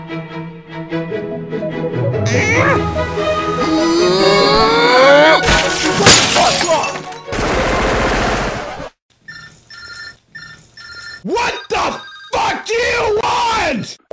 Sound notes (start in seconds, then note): 7.3 machine gun; 9.2 Mario's phone ringing